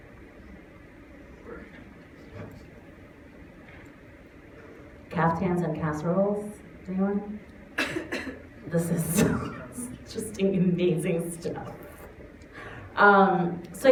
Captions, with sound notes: Caftans and casseroles? Anyone? This is so-- [Laughs] Just amazing stuff.